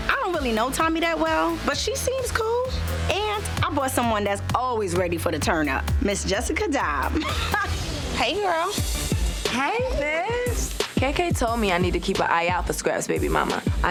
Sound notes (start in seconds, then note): 7.0 laughs